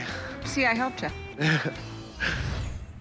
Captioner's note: laughs